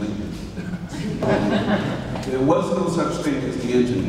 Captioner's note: audience laughs